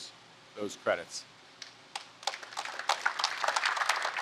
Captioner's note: applause